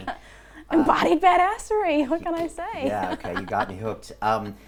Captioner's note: laughing